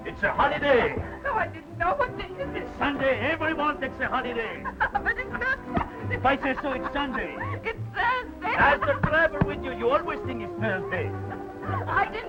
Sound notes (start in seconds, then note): 5.2 laughing; 7.9 laughing